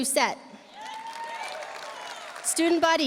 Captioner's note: audience cheering; audience applauding